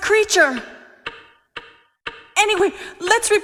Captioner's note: object ticking